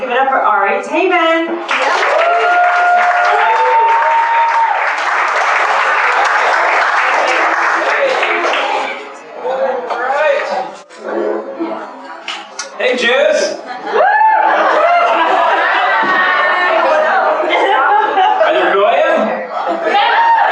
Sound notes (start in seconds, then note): 14.4 laughter